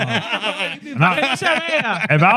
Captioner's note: laughing